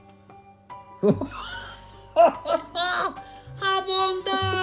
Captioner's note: both laughing